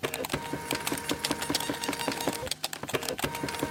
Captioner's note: machine typing